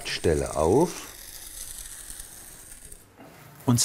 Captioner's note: scratching noise